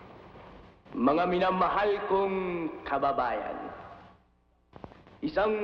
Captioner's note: man speaking in Tagalog